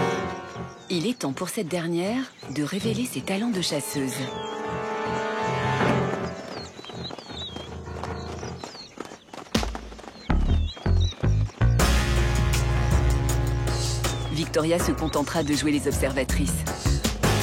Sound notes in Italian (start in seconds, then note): 4.4 musica tensiva; 7.1 cinguettii